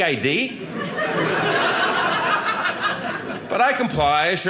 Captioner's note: audience laughing